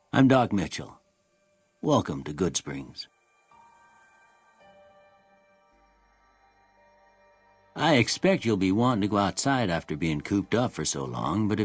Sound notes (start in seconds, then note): none